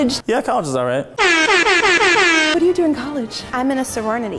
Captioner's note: electronic air horn blasts